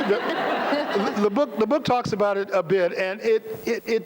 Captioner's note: laughter